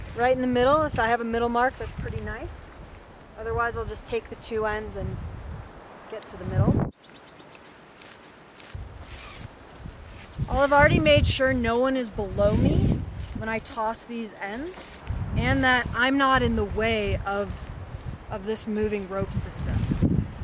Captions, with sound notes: right in the middle. If I have a middle mark, that's pretty nice. Otherwise I'll just take the two ends and get to the middle. (ropes sliding) I'll have already made sure no one is below me when I toss these ends and that I'm not in the way of this moving rope system.